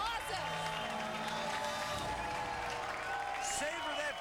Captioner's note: cheers and applause